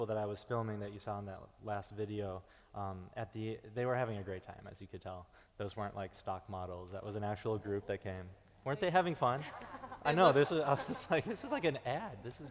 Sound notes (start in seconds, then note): 9.4 laughing; 9.9 murmuring affirmatively